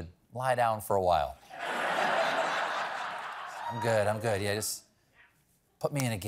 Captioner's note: laughter